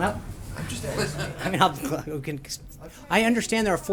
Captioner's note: laughter